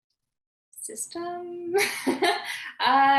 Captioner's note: laughing